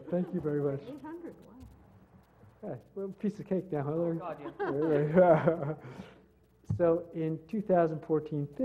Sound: laugh

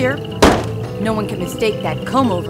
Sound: sign bangs

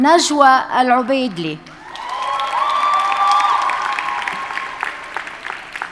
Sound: audience cheers and applauds

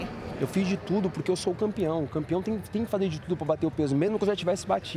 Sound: speaking in native language

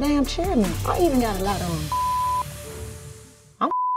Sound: beep; beep

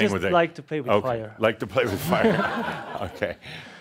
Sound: laughter

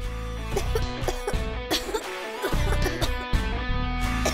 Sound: coughing

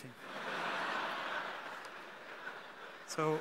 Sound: audience laughing

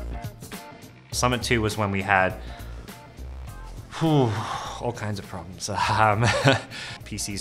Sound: sighs

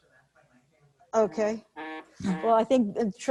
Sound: buzzing

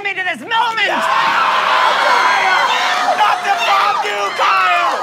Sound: screaming

